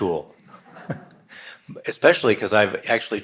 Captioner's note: audience laughs